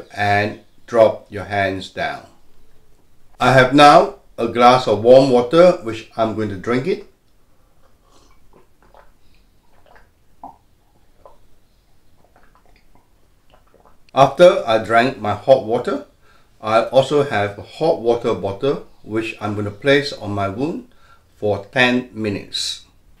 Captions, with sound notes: And drop your hands down. I have now a glass of warm water which I'm gonna drink it. (slurping) After I drank my hot water, I also have a hot water bottle which I'm gonna place on my womb for 10 minutes.